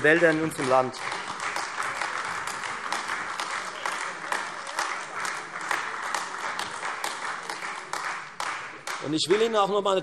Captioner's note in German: Beifall Freie Demokraten und AfD